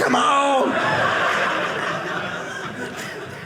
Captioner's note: audience laughing